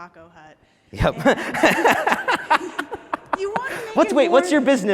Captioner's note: laughter